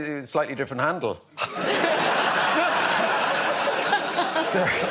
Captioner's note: laughter